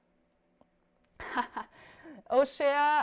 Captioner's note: laughs